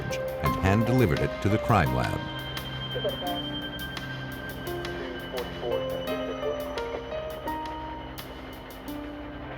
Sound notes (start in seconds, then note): 3.3 police radio chatter